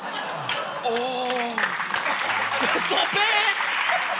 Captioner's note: laughter; applause